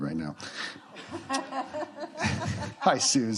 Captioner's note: laughter